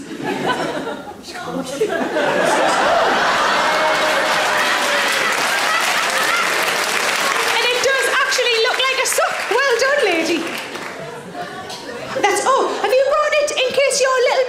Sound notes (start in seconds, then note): 0.2 audience giggles; 1.7 audience laughs; 4.3 audience applauds